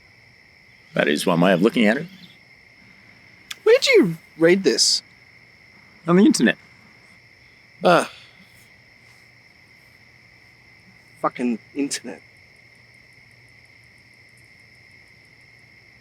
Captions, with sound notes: - That is one way of looking at it. - Where'd you read this? - On the internet. (Man sighs) - Fucking internet.